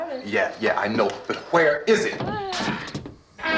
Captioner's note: groaning